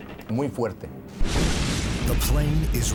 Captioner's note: loud thud